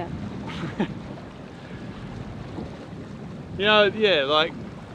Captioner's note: laughing